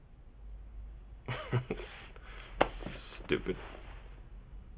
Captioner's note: laughs